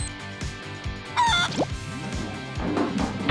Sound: clucking

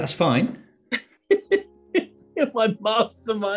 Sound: giggling

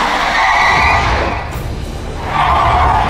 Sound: air Whooshing

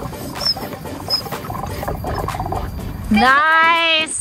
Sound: pump squeaks

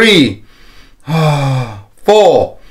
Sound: inhale and exhales

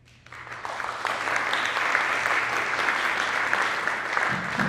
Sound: audience applauding

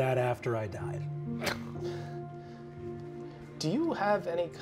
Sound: chuckling

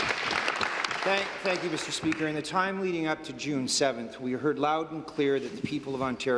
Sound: applause

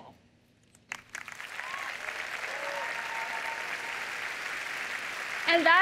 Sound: cheers and applause

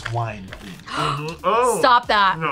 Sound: gasps

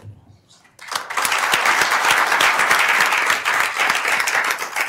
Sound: clapping

